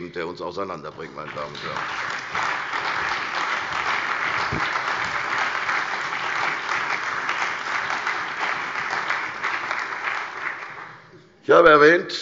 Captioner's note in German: Beifall bei der CDU und dem BÜNDNIS 90/DIE GRÜNEN